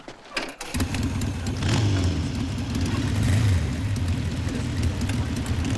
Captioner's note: motorcycle engines revving